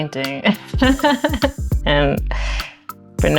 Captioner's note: laughs